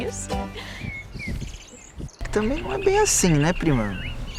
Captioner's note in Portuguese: Pássaros